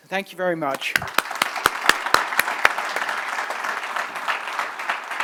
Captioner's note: applause